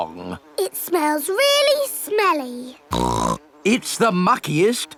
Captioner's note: snorts